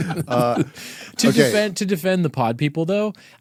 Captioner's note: laughing